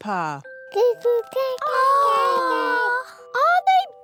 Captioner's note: babies gurgle